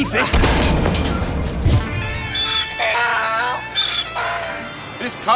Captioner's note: braying